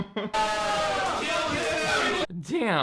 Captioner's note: laughs; audience yelling